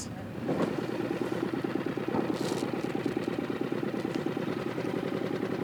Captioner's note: boat motor humming